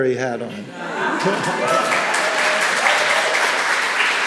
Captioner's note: applause